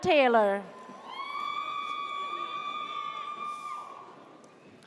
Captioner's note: audience cheers